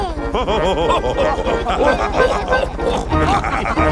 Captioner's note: chuckles; all laughing